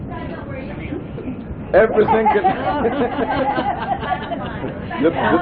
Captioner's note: laughter